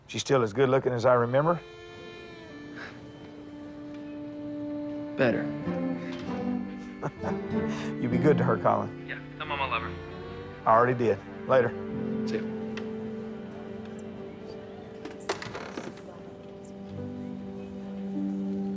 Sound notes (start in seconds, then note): 2.8 chuckles; 6.7 laughs